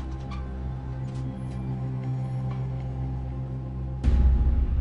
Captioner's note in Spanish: Ruido al abrir